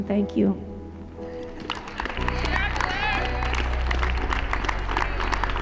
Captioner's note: people clapping and cheering